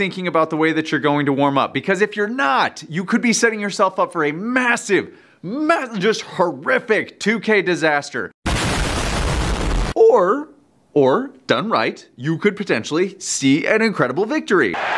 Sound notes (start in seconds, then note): 8.4 explosion